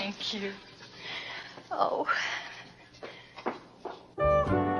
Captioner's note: footsteps receding; jazzy music